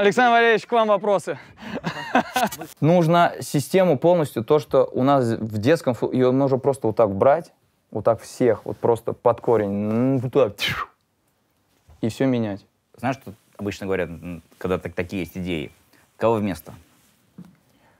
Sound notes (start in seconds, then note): 1.6 laughs; 10.6 whistles